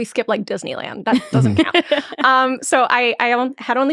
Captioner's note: laughing